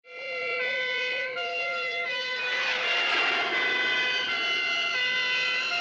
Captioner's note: sirens; airplane engine